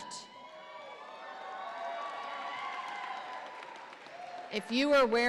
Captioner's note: audience applauds and cheers